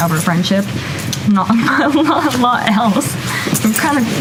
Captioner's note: laughs